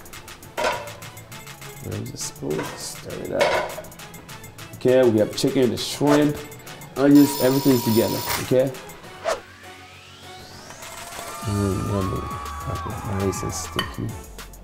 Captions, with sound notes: (lid clanks) Where is the spoon? stir it up. Okay, we have chicken and shrimp, onions, everything together. (timer rings) Okay? (audience applauds) Oo, yummy. Like that nice and sticky.